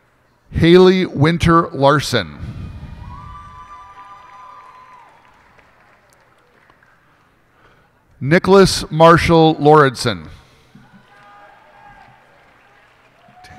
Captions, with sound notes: Haylee Winter Larson. [cheers and applause] Niklas Marshall Lauridsen. [cheers and applause]